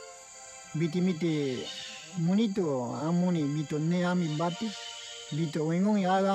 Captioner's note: speaking in foreign language